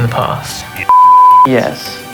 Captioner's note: beep